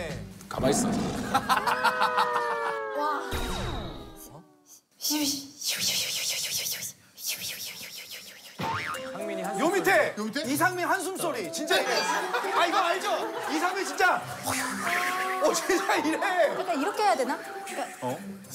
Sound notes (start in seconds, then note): 15.0 divides his sighs